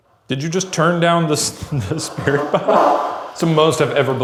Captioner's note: laughing